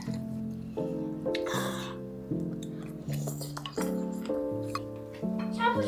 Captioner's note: eating sounds ASMR